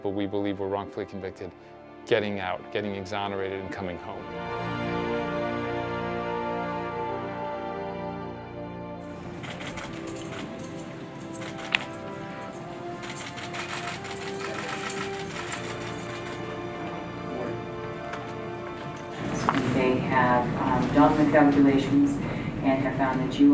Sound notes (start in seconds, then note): 9.1 chains clinking; 11.0 cameras clicking